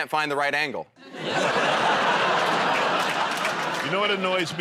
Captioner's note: laughter